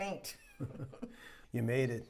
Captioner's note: both chuckling